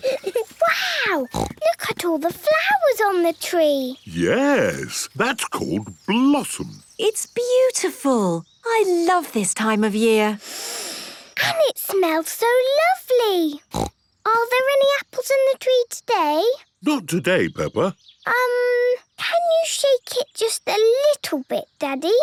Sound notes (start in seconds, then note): 10.4 Peppa inhaling deeply; 13.7 snorting